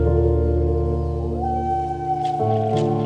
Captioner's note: bird hooting